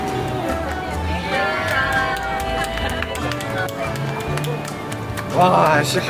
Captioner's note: everyone around cheers for completing the tutorial